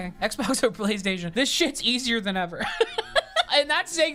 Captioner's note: laughs